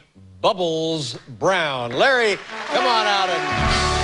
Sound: cheers and applause

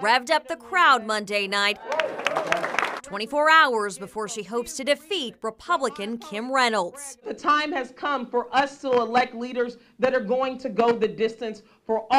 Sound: applause

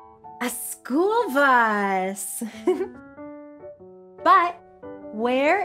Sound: giggles

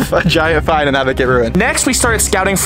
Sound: chuckles

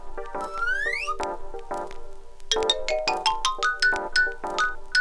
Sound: slide whistle ascending; xylophone plinking

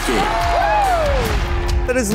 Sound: crowd cheering

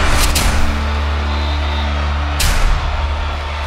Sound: cheering

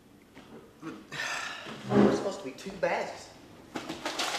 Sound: sighs

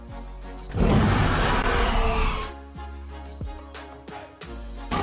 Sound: dinosaur roars

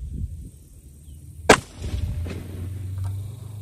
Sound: report of the rifle

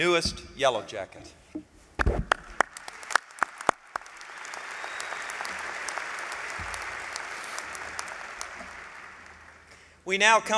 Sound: applause

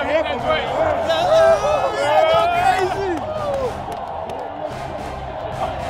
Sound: cheering

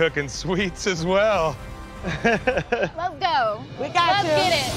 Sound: laughs

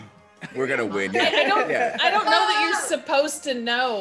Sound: laugh

